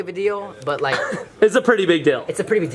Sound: chuckles

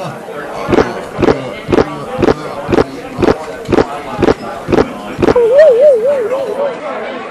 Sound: gulping

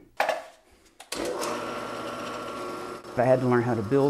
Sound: drill whirring

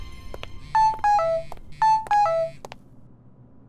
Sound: phone beeps

